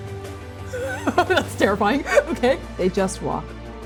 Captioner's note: laughing